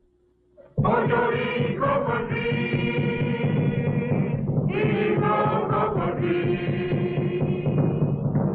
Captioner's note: chanting in an unknown language